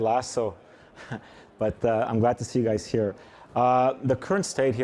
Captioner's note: chuckles